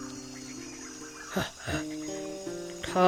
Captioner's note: grunting noise